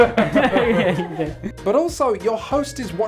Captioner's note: giggles